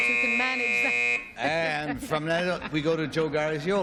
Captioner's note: buzz